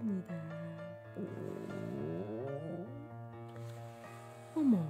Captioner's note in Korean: 꼬르륵